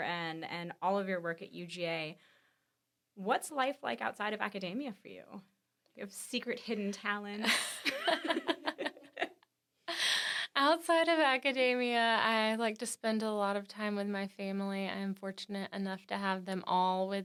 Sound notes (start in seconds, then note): 3.6 laughs